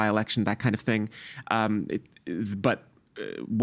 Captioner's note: stammering